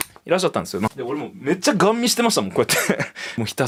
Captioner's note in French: rires